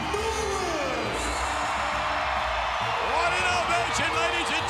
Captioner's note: crowd cheering